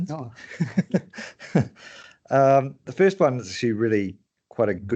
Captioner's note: chuckles